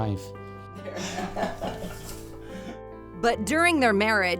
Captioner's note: chuckles